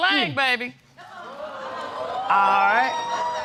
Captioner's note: audience exclaiming